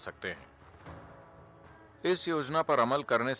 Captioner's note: speaks in Gujarati – not transcribed